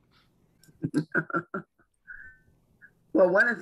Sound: laughs

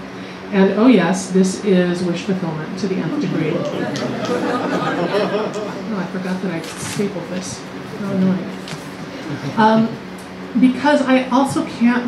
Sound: laughter

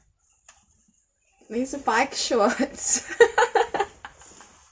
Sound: laughs

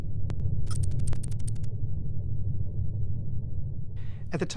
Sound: electronic typing

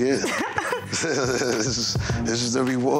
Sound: both laughing

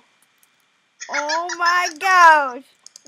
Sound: laughing

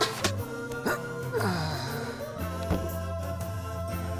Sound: groaning

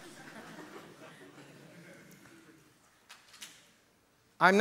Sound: audience laughter

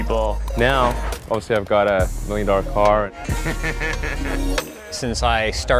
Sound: laughs

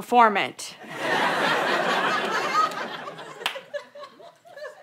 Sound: audience laughter

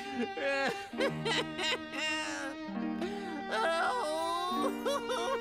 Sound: continues to fake cry

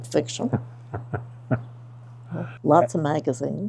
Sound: chuckling

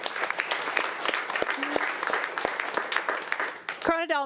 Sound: audience applauding

